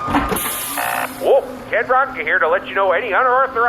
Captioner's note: error sound